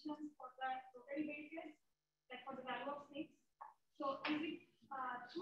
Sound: woman speaking away from the mic

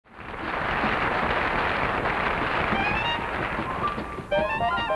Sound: audience applauding

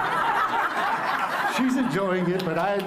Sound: laughter

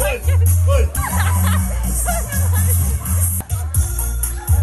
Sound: laughing

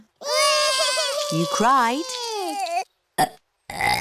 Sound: both bawling; both burping

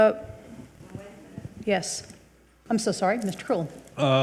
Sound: speaks distantly

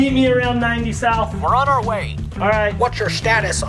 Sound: man On phone

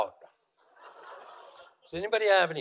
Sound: audience laughing

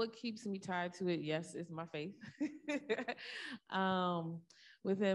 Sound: laughs

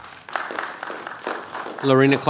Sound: attendees applauding

